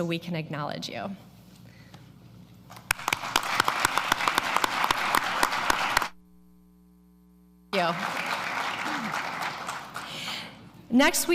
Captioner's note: applause